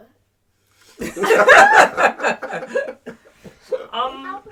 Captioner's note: laughs